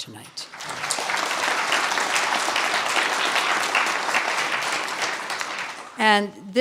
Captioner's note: applause